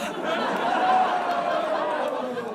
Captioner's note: audience laughs and jeers